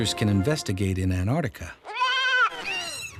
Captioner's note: sheep baaing; penguin calling